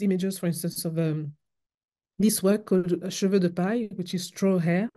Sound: french

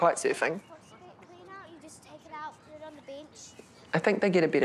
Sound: background chatter

